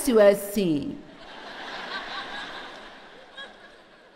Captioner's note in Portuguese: audiência ri